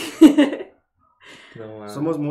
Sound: laughs in admittance

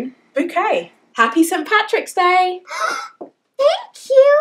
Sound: gasps

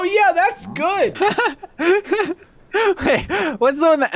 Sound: laughs

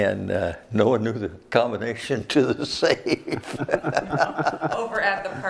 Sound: laughs

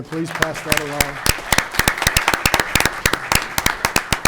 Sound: clapping

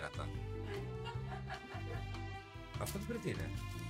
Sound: laughter

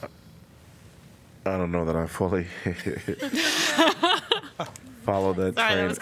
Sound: laughter

